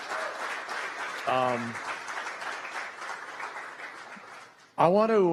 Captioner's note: applause